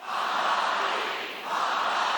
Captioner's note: chanting